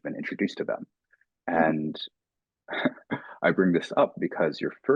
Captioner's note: chuckling